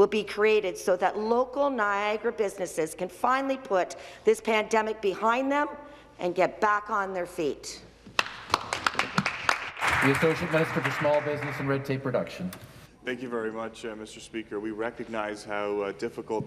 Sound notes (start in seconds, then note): 10.7 some Applause